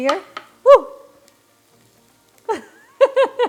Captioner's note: laughs